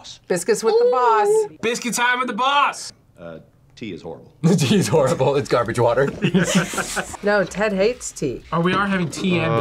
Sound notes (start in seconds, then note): 5.9 laughs